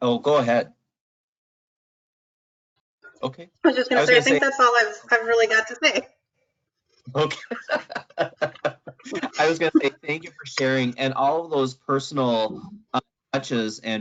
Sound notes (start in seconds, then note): 4.5 mumbles; 7.1 laughs